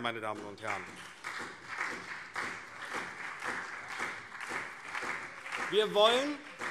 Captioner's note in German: Beifall SPD und vereinzelt BÜNDNIS 90/DIE GRÜNEN